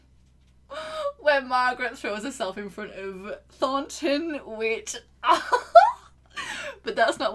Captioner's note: laughs